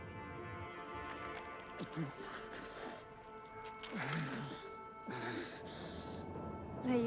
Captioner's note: blood gushing; Teplov panting